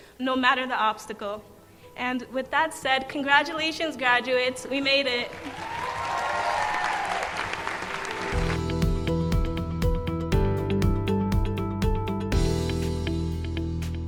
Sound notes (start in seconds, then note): 5.3 cheers and applause